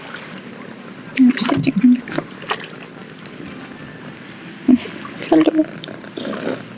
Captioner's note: talks to cat in foreign language